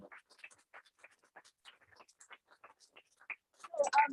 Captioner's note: applause